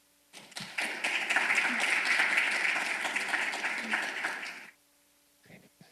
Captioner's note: applause